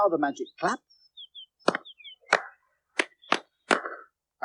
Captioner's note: all Clap Together